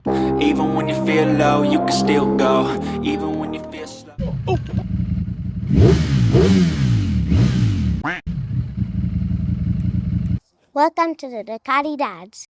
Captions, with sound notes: Even when you feel low, you can still go Even when you feel slow (engine revving) Welcome to the Ducati Dads.